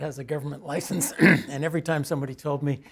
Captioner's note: cough